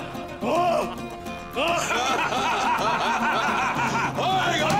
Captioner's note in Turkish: Gülme sesleri